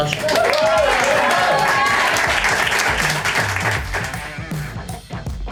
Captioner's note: audience applause